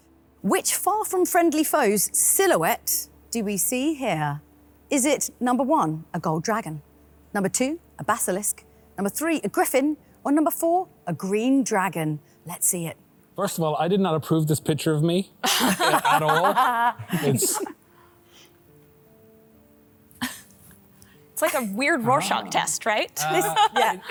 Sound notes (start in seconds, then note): 15.4 all laugh; 23.2 laughs